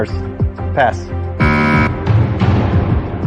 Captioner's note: buzzer sounds